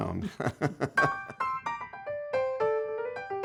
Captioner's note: laughing